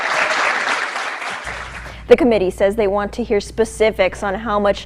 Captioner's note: applaus